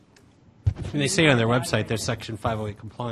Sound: voiceover

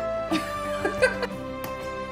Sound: laughter

